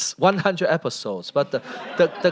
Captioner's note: laughter